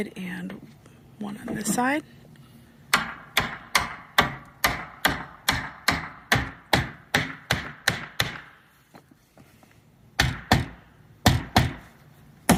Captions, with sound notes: and one on this side. (man hammering wood)